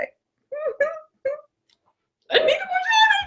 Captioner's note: giggles